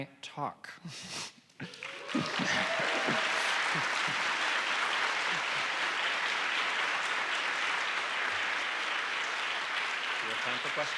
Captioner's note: applause